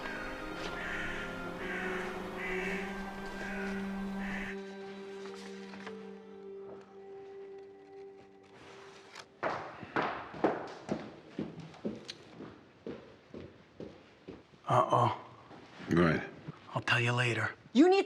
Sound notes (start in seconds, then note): 0.0 birds chirping; 2.5 dramatic music; 4.5 birds chirping; 6.3 gentle music; 9.7 footsteps